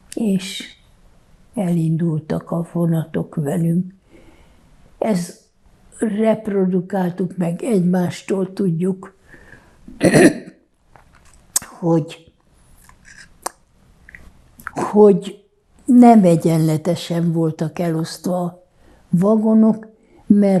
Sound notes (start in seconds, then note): 9.9 clears throat